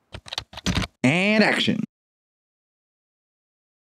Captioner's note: typing